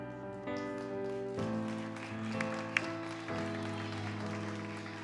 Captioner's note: audience applauds